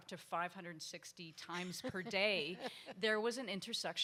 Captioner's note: panel members laugh